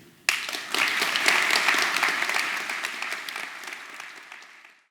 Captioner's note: audience applause